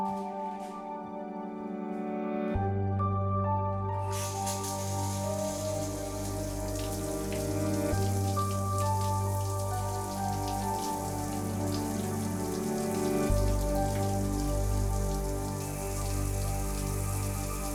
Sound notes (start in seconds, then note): 4.6 water splashing